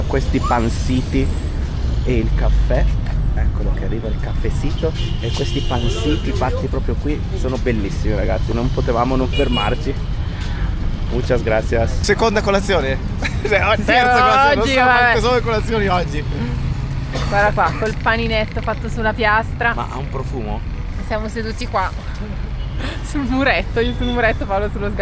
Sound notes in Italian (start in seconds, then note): 13.2 risate